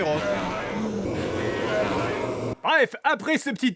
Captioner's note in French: Bruit de rhinocéros